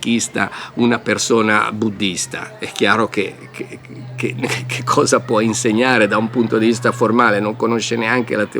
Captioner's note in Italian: risate